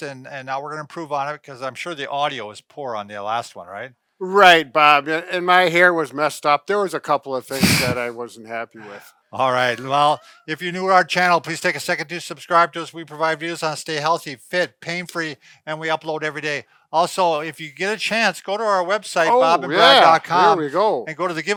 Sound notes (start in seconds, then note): 7.5 laughs